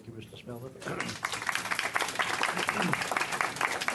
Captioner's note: clapping